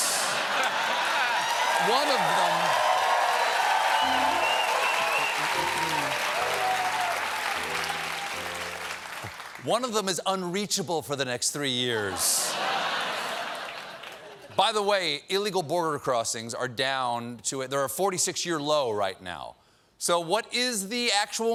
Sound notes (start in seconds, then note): 0.0 cheers and applause; 0.1 laughter; 12.0 laughter